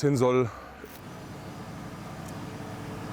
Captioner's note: continuous low hum